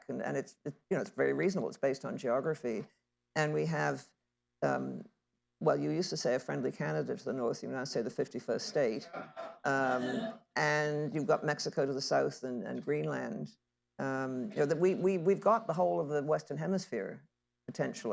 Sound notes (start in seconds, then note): 9.0 laughter